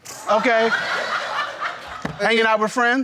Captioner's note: crowd laughing